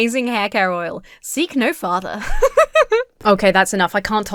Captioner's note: laughs